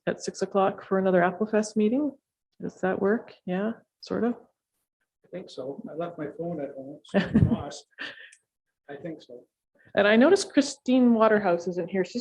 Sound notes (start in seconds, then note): 7.3 laughing